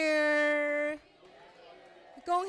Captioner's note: audience repeats; non-english speech